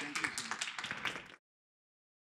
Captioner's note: applause